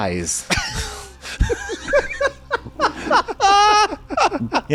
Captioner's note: laughing